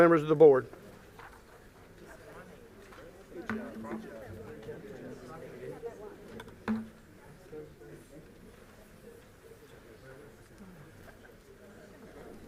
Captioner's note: group chatter